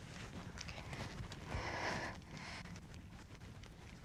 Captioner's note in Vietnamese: thở sâu